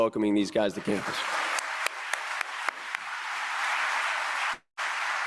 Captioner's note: audience applauding